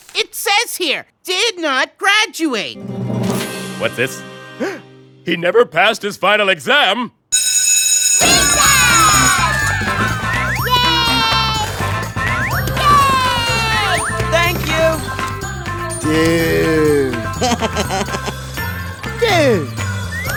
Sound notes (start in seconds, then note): 3.3 gasps; 7.3 school bell rings; 8.2 cheering; 16.1 laughs